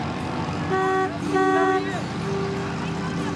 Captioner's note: indistinct chatter